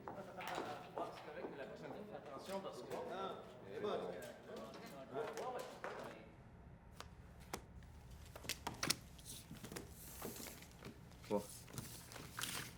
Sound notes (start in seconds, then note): 0.8 people chatter indistinctly; 8.3 cards shuffle